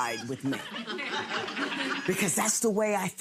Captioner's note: audience laughs